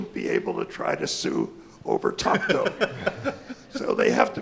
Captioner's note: mumbling; laughing